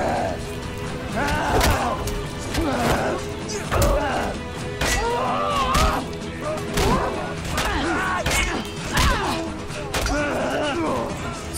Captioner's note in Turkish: Dövüş Sesleri